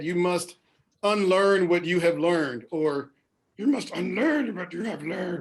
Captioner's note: repeats in Yoda voice